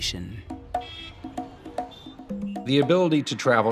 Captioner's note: upbeat rhythmic music; horns honking